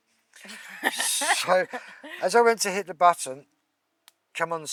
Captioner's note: laughing